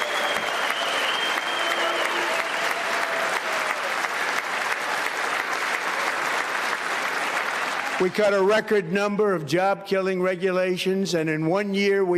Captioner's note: applause